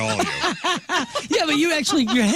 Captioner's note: laughing